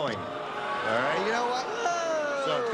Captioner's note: booing